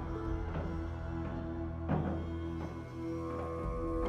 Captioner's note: footsteps